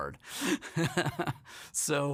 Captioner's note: laughs